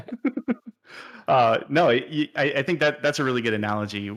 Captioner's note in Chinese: 笑声